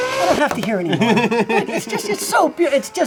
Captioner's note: engine revs; laughs